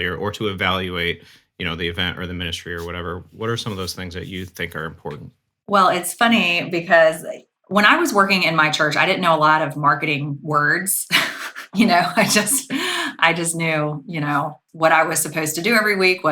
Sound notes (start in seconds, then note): 11.0 chuckling